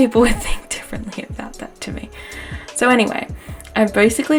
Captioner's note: laughs